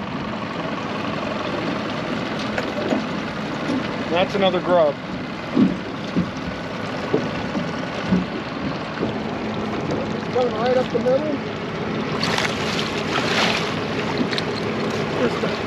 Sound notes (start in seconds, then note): 2.4 boat engine idling; 9.0 boat engine idling